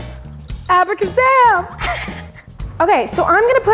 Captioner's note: laughs